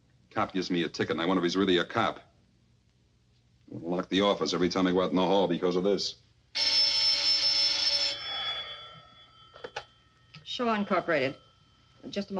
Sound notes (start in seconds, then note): 6.5 telephone rings; 7.1 Edward sighs